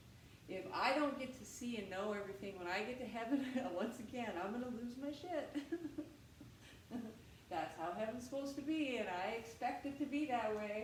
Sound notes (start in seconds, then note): 5.4 laughter